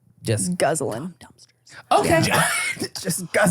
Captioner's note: whispers